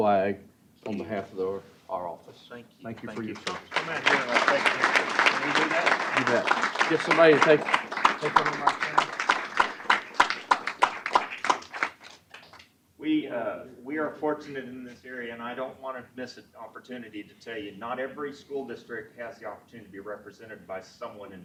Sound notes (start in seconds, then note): 3.2 applause